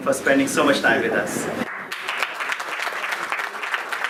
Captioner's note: clapping